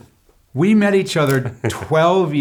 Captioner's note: laughs